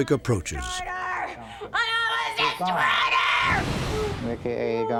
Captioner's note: screaming incoherantly; praying in latin